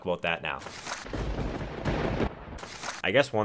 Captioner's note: thunderbolts strike